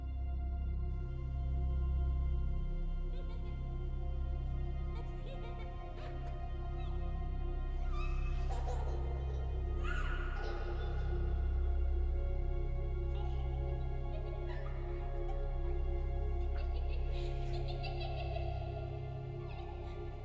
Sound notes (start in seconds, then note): 0.1 gentle suspenseful music continues; 3.1 child giggling